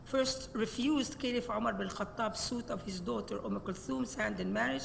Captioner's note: speaks Arabic